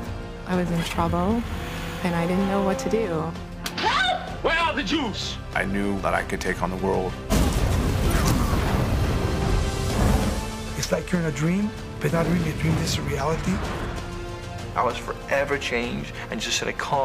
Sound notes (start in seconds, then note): 3.6 slap